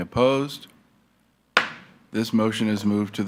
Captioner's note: gavel thuds